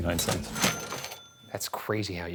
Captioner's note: cash register clicking